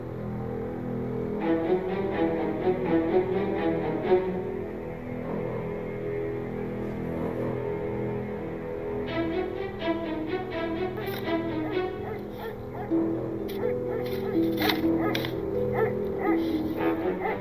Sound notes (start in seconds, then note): 13.5 shoveling; 15.6 dog barking